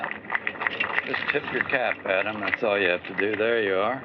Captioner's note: applause